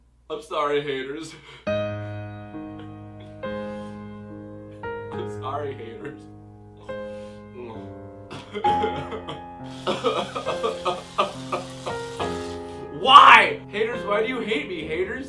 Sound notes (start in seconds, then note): 1.5 sad music plays; 8.1 crying